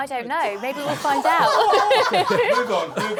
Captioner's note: laughter